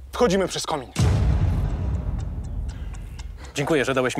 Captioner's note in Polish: muzyczne pyknięcie